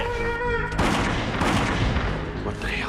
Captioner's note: gunshots